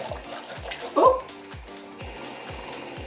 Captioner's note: laughs